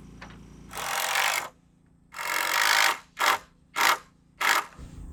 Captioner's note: drill buzzing